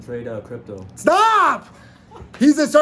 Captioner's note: laughs